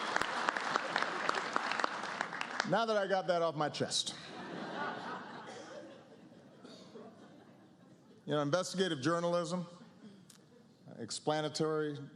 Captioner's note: applause